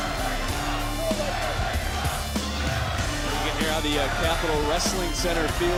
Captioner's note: audience chants, "la sucks"